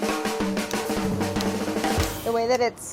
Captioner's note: snipping